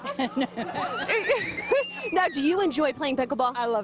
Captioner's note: laughter